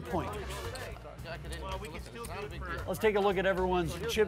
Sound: players chattering in background

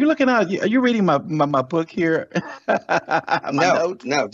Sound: laughs

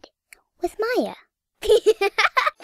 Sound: laughs

